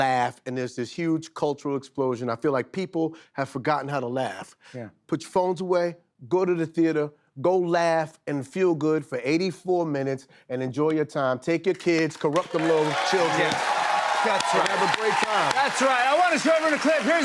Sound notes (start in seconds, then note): 12.3 cheers and applause